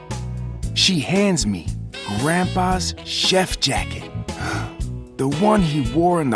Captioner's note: gasps